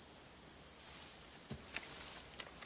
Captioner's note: grass rustling